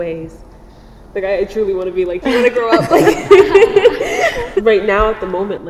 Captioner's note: laughs